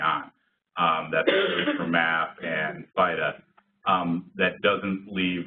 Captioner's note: coughing